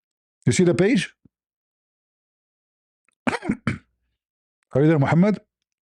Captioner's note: cough